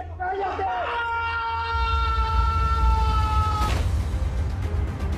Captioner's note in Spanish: Grito